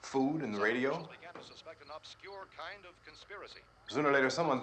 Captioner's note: man on radio